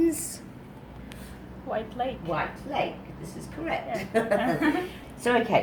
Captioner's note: laughter